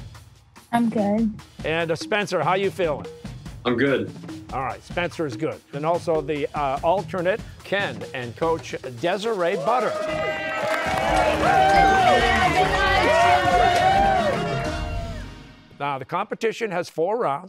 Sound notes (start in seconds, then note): 9.4 cheers and applause